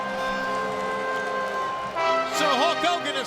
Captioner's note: crowd cheering